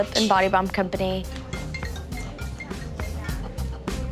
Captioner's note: cellphone rings